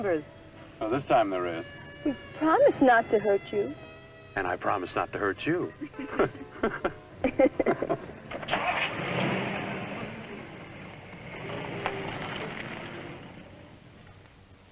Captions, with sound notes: Oh, this time there is. We promise not to hurt you. And I promise not to hurt you. (laughing) (car engine revving)